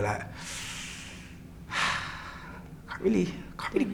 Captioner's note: sighing